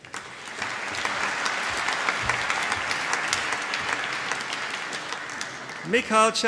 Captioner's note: applause